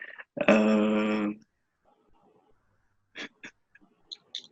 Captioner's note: silent crying